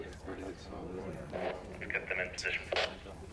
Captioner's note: static crackles